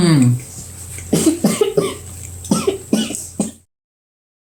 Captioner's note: coughs in the background